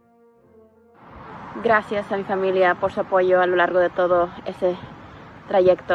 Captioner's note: speaking Spanish